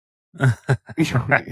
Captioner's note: laughing